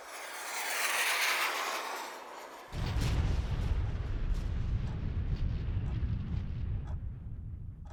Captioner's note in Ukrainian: звук вибуху